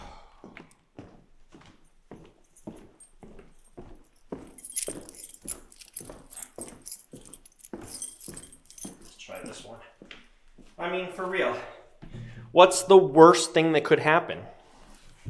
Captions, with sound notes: (Jacob sighs) (keys clanging) Let's try this one. I mean, for real, what's the worst thing that could happen?